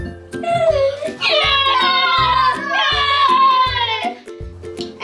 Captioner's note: cheering